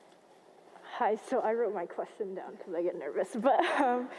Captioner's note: chuckles